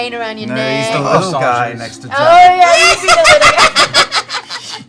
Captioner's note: cackling laughter